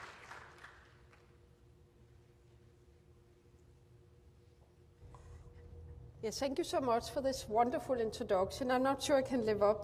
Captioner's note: applause